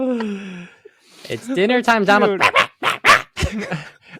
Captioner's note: barks